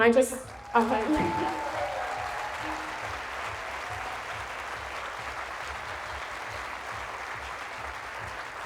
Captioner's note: applause